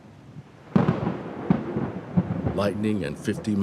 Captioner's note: thunder cracking